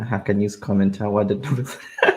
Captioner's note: laughs